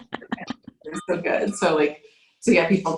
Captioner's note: both laughing